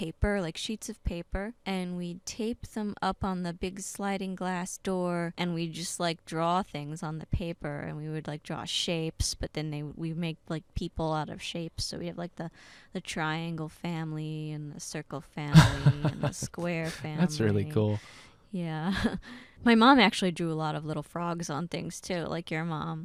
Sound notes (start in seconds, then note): 15.5 laughing